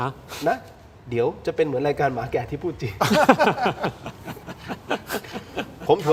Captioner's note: laughter